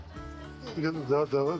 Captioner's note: laughs